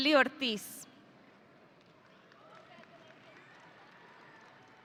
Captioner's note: audience cheering